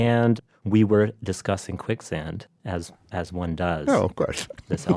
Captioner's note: laughs